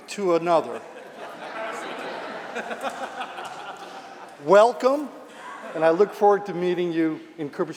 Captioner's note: laughter